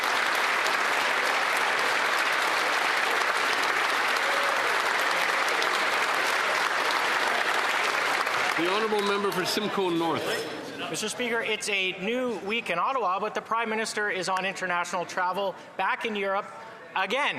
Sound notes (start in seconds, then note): 4.8 applause